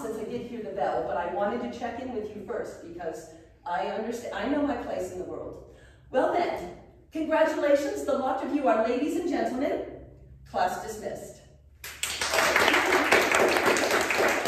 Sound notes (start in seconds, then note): 11.8 applause